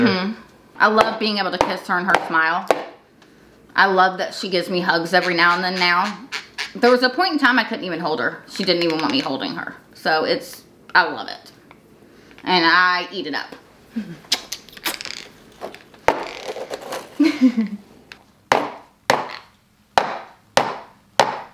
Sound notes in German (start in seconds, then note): 14.2 mit den Lippen klatschen; 16.1 Tasse klopft auf den Tisch; 17.1 Mama lacht; 18.4 Tasse klopft auf den Tisch